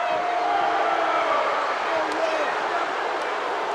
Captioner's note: crowd boos